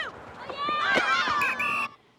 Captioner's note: whistle blows